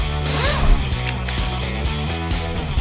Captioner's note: whirring